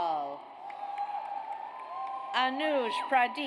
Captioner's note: audience cheers